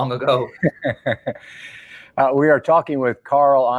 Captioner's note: laughing